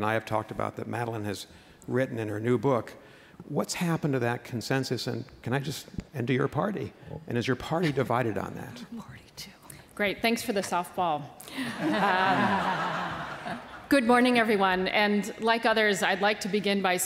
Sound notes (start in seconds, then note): 11.6 laughs